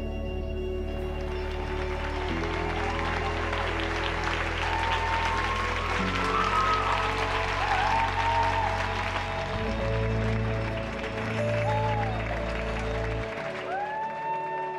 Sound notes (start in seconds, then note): 2.2 cheering; 2.2 clapping